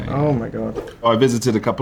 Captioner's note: slide swipe